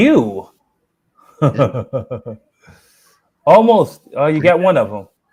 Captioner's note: laughs